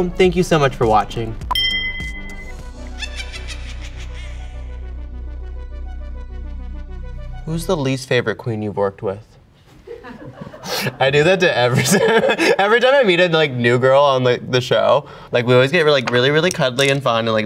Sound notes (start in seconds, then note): 1.5 bell dinging; 2.7 witch cackling